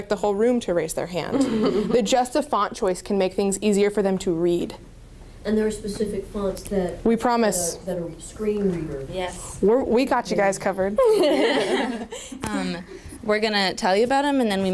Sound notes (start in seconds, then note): 11.0 laughter